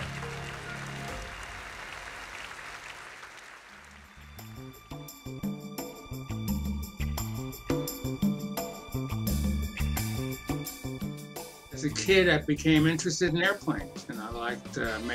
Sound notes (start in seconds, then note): 4.6 applause